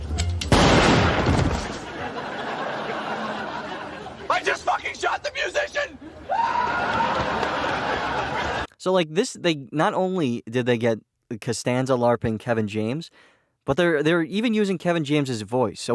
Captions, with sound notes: [BANG] I just fucking shot the musician! [Seinfeld runs away screaming] - So like this, they not only did they get Costanza LARPing Kevin James, but they're, they're even using Kevin James's voice.